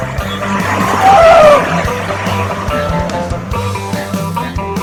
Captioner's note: boat motor chugging; upbeat rock music continues